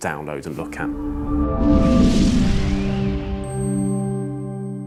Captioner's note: electronic whoosh